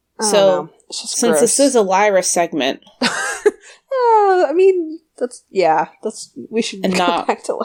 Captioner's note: laughs